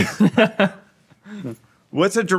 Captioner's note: laughing